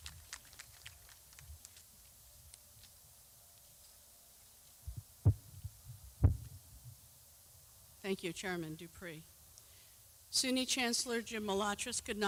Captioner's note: clapping